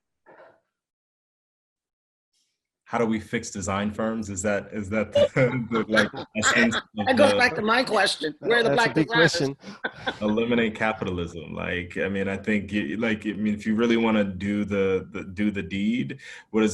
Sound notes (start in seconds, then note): 5.1 laughter; 9.4 laugh